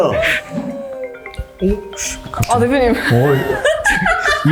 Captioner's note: phone ringing